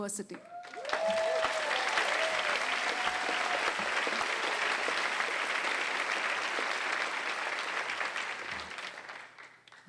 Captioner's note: applause